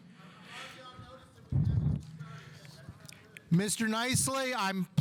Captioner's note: mumbling